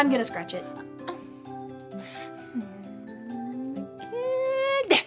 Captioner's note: groans